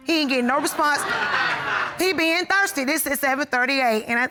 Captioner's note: audience laughs